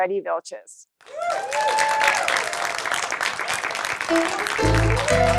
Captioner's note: cheering and applause